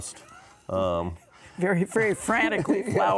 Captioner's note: laughing